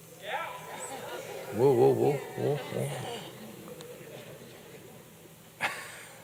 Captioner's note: laughs